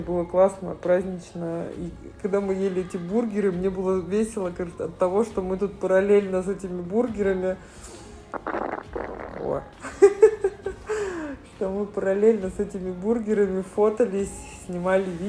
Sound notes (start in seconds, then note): 8.1 sound of childish surprise; 8.3 laughs